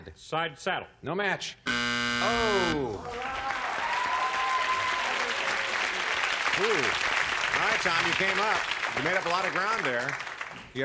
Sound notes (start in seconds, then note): 1.6 buzzer; 5.2 cheers